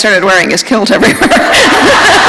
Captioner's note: laughter